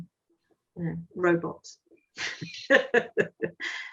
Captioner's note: laughs